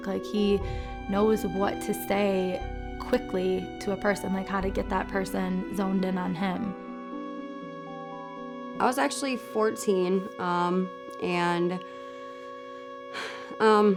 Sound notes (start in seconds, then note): 13.1 sighs